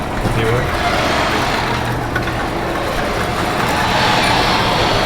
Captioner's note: garage door opens